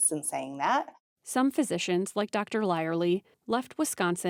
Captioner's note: voice-over